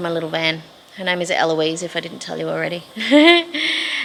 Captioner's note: giggles